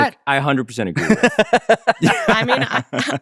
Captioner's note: laughs